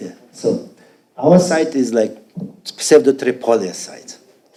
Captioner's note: speaking foreign language